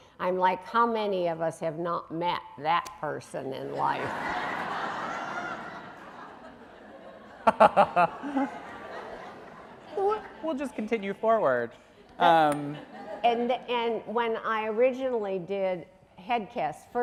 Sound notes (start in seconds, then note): 3.8 audience laughing